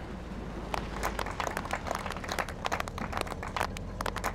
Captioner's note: group applauds